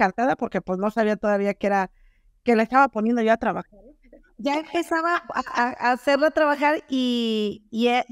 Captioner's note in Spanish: risas